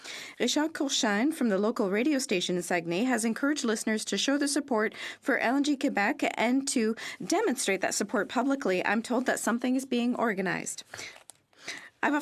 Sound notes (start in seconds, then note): 5.4 speaking French